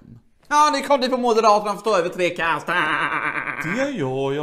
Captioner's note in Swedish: skrattar